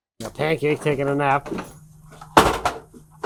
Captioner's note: tools clanking